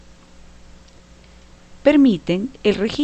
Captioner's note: no audio